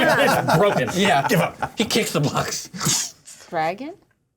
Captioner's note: laughter